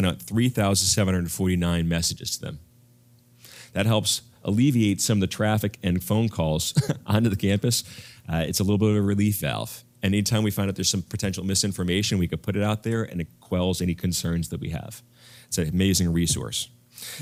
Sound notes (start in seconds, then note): 6.6 laugh